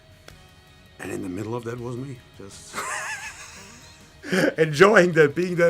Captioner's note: laughs